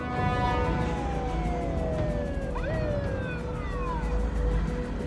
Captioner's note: police siren wailing